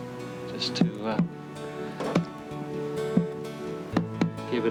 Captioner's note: thumping